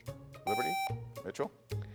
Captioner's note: buzzer beeps